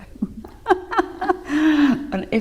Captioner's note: laughs